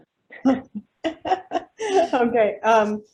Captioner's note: laughs